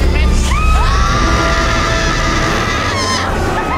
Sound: both screaming

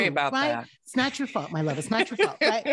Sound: laughing

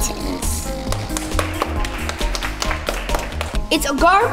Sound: applause

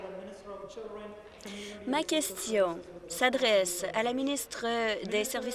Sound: some Applause

